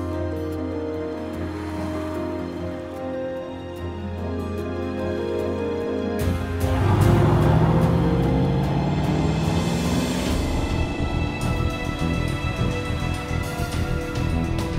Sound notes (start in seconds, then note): 6.2 cars rev; 10.5 dramatic instrumental music